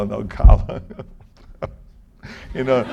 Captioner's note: chuckle